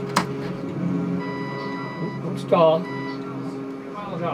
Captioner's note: button clicks; alarm chiming